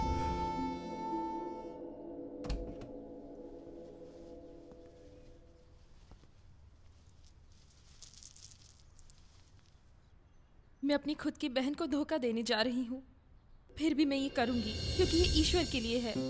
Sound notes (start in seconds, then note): 2.4 door Opens